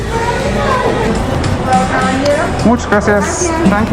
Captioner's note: speaks in foreign language